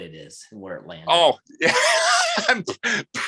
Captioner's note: laughing